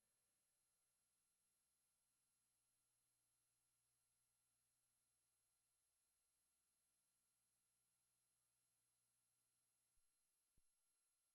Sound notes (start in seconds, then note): none